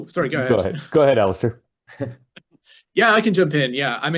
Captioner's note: laughs